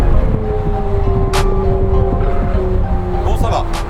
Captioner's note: engine roaring